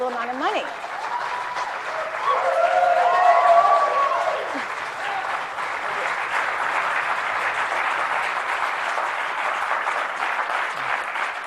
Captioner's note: applause